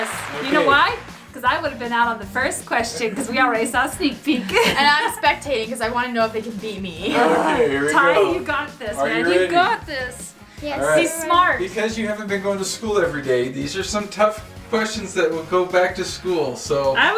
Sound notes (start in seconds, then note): 7.3 grunts